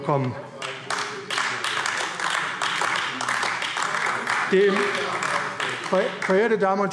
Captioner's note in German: Beifall AfD